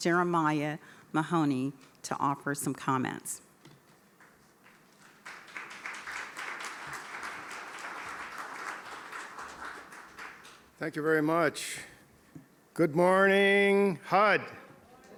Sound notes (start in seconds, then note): 7.4 applause